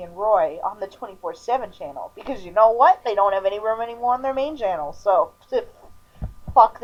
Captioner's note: pfft pff